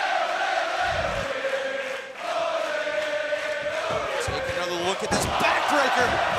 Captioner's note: crowd cheering